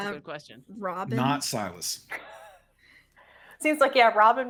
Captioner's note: people chuckling